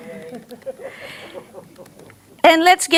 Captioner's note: audience members laughing